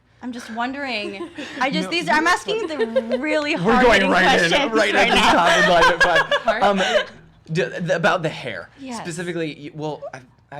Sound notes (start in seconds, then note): 4.6 laughter